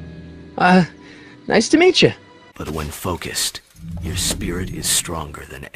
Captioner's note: none